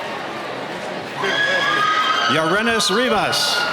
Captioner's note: cheering